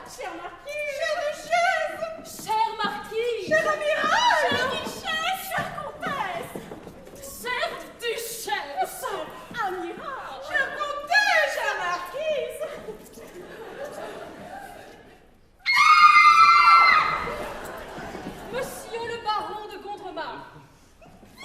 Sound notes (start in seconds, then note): 15.6 they scream with joy